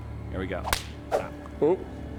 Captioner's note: swoosh; slap